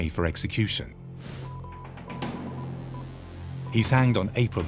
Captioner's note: radio beeps